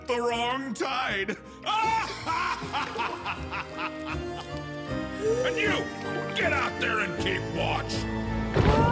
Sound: evil laugh

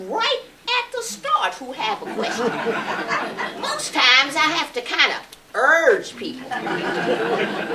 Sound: laughter

